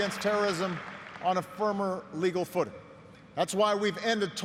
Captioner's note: applause